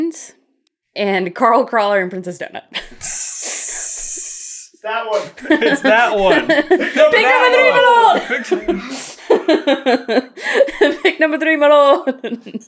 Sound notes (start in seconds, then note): 5.1 team laughing; 8.4 laughter